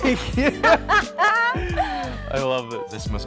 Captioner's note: laughing